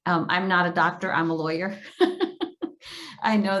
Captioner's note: laughs